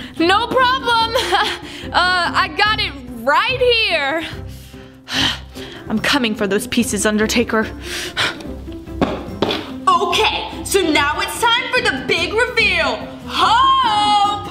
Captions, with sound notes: - No problem, I got it right here. I'm coming for those pieces Undertaker. (feet stomping) - Okay, so now it's time for the big reveal. Hope.